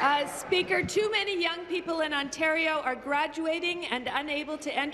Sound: applause

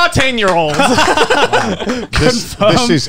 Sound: everyone laughs

